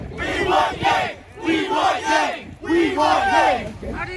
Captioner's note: cheering